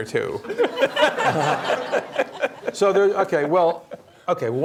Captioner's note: laughter